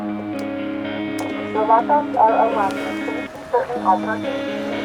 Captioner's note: voice muffling